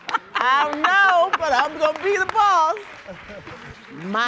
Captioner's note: applause